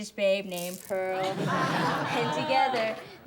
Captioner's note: class laughs